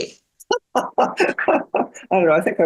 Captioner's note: laughs